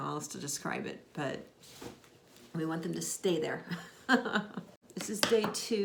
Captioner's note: laughs